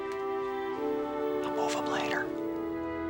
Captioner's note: whispering